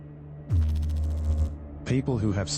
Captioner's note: electrical noise